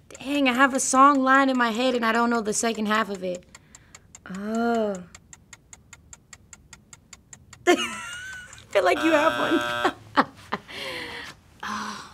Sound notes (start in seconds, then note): 0.0 clocking ticking; 5.4 clock ticking; 7.7 nervous laugh; 8.8 buzzer